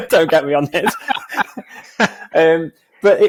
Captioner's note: both laughing